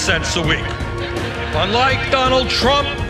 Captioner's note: crowd laughs